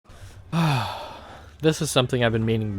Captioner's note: heavy Sigh